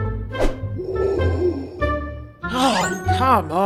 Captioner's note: breathing through gas mask noises